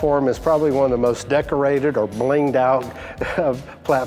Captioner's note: laughs